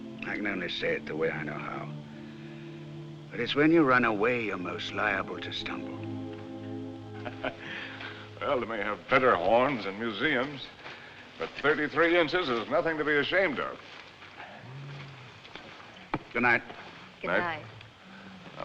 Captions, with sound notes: I can only say it the way I know how. It's when you run away you're most liable to stumble. [ Laughs ] Well, they may have better horns in museums, but 33 inches is nothing to be ashamed of. Good night. Good night.